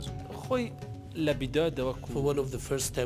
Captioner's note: speaks in foreign language